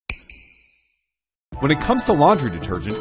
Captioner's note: snap